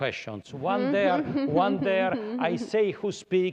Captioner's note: laughter